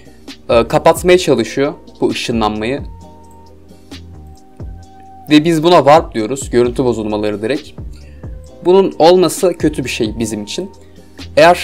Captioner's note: distortions